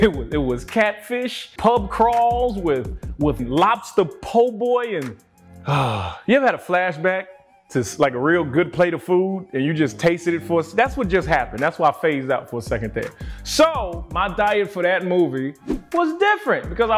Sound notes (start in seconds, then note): 5.6 sighs